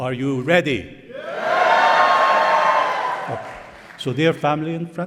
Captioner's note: cheering